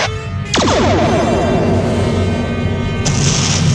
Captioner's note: torpedo fires